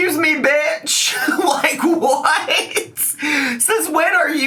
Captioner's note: laughs